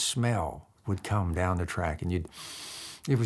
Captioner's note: sniffs deeply